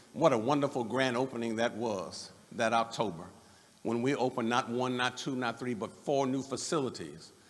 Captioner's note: none